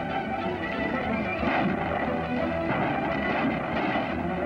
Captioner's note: gunshots